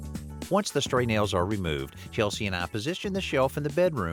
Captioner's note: none